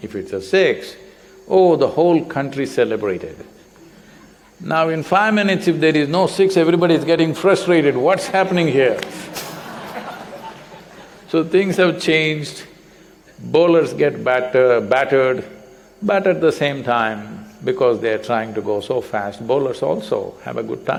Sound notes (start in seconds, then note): 7.9 laughter